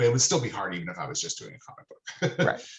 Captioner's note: laughing